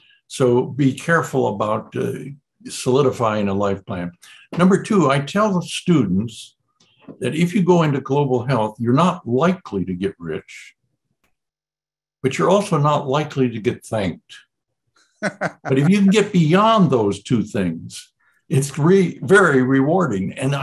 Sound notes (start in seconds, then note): 15.2 laughs